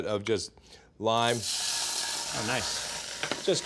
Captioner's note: sizzling